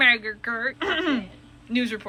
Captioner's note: clears throat